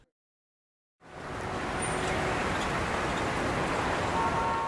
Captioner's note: traffic rushes